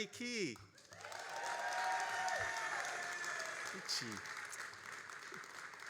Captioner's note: all applauding and cheering